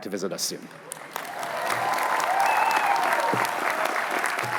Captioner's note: cheering